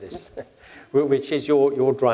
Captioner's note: laugh